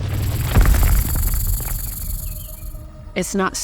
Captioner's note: snake rattles